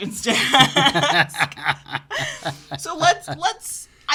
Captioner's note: both laugh